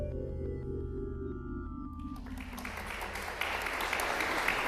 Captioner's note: applause